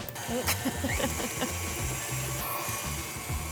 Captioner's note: chuckling